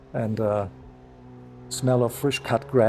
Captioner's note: none